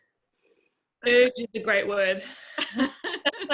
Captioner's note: laughs